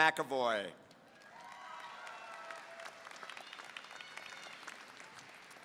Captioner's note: audience applauding